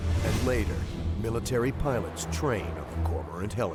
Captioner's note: voiceover